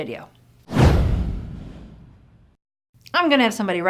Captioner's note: swoosh